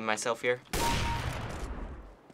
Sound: gun blast; kill chime

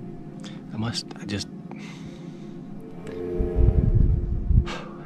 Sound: sigh

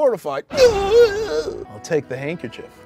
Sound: gasping

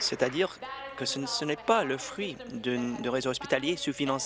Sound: applause

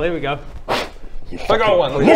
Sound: blow

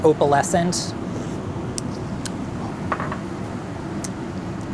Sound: tongue popping

